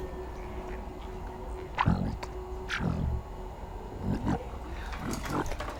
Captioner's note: distorted growling and speaking